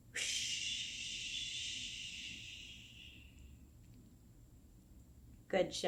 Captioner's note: shushing noise